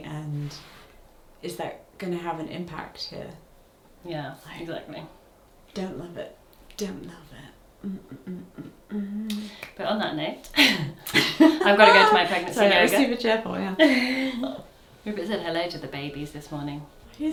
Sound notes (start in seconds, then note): 7.8 humming; 10.6 both laugh